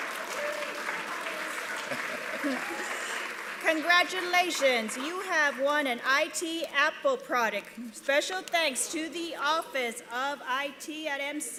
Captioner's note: applause